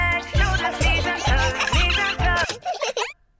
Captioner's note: giggling; music stops